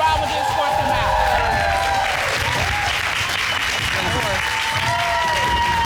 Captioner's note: applause